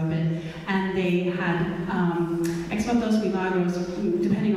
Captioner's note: speaking in foreign language